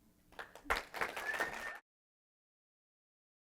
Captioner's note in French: Applaudissements